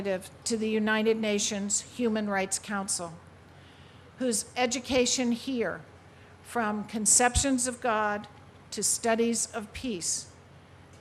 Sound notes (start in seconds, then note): none